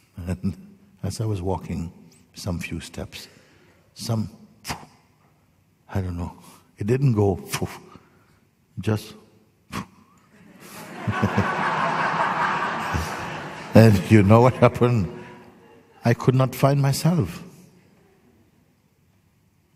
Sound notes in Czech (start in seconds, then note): 10.3 smích